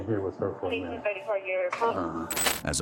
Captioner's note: radio chatter